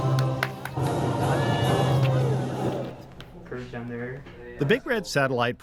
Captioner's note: dramatic music continues; students clapping and cheering